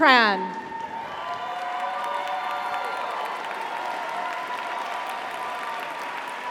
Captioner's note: audience cheers; audience applauds